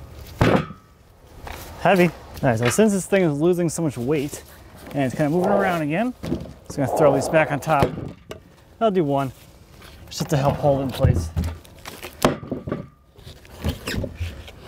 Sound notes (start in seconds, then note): none